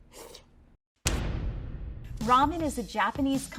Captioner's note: slurps; thunk